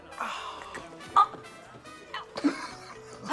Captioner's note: choking